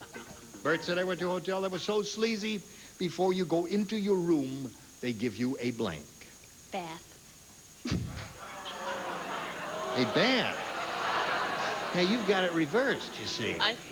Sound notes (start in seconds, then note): 8.0 audience groans